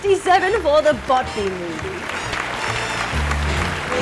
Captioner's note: applause